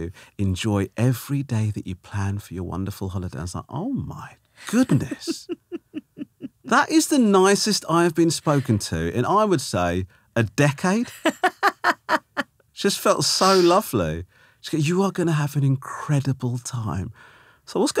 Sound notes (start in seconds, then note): 4.6 laughing; 13.2 laughing